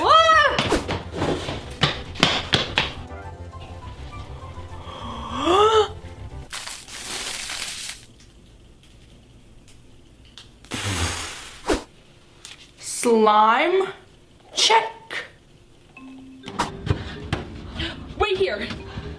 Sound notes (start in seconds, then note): 4.8 gasping; 6.6 slime dripping; 10.9 slowly exhaling